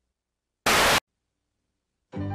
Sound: Static

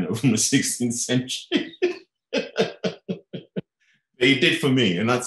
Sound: laughing

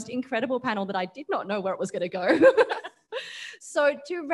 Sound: laughs

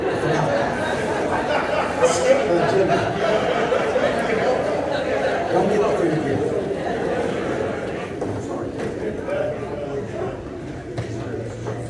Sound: laughing

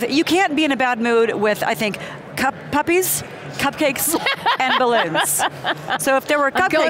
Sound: laughs

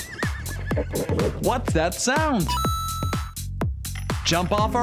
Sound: chime

